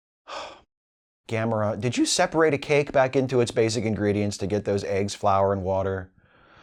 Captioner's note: sigh